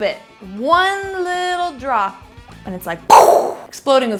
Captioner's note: imitating explosion